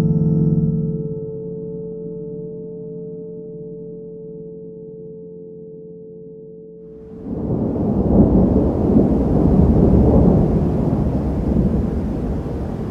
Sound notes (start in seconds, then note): 1.2 tone stops, echoes continue; 7.0 thunder rumbles; 7.0 wind and rain rustling